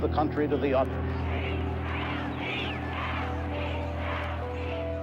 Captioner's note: chanting